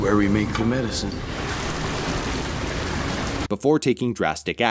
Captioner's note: water flowing, being poured